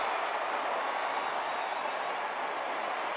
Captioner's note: crowd cheering